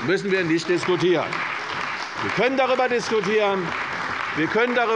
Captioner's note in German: Beifall bei der CDU und dem BÜNDNIS 90/DIE GRÜNEN